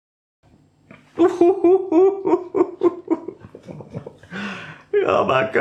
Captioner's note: borderline hysterical giggling